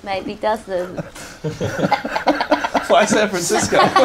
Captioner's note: laughing